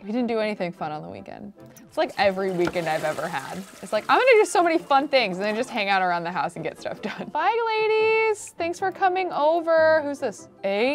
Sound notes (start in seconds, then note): 6.6 laughs